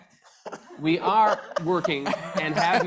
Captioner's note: laughing